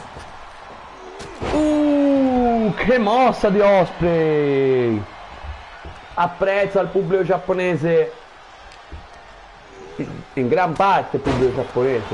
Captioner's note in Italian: Applauso